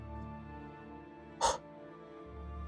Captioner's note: temperature induced sigh